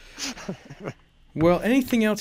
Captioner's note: laughing